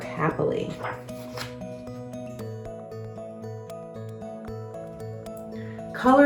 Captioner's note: uplifting instrumental music; pages shuffles